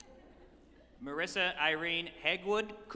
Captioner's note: group chuckling